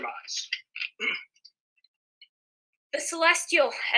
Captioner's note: clears throat